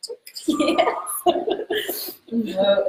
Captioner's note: laughs